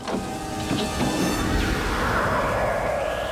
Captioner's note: wind Howls